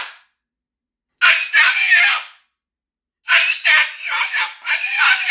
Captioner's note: moluccan Yelling